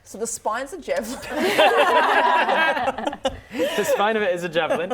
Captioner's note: laughing